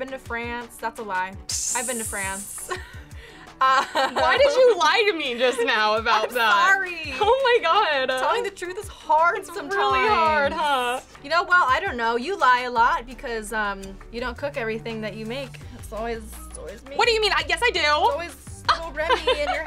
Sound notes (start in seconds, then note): 2.2 laughing